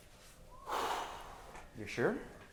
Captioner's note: sighing